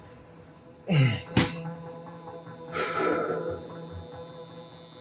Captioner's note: grunting; breathing heavily; light buzzing